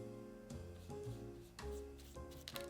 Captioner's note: brushing